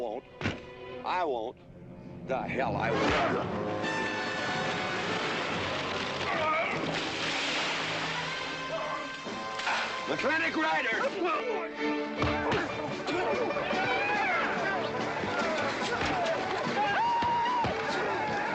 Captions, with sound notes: but I won't. I won't. The hell I won't. (GROANING) Mclintock riders! (GRUNTING) (HORSES NEIGHING) (ALL SHOUTING)